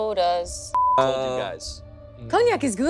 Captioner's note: beep